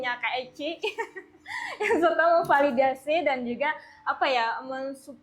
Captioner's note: laughs